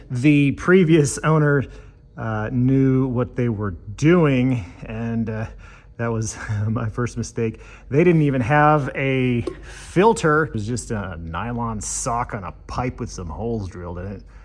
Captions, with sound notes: the previous owner knew what they were doing, and that was my first mistake. [chuckles] They didn't even have a filter—it was just a nylon sock on a pipe with some holes drilled in it.